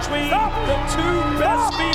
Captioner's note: bell ringing; audience cheering